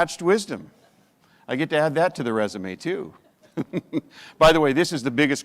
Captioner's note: chuckles